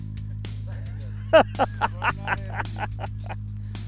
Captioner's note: laughs